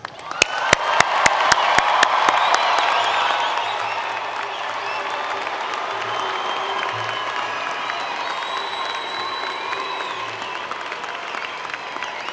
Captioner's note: cheering and Applause